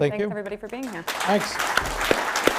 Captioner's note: applause